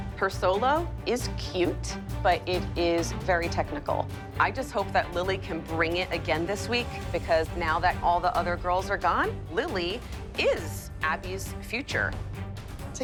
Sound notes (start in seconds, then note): none